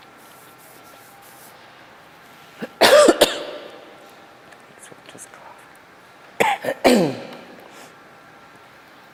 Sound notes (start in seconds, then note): 2.6 coughs; 6.4 coughs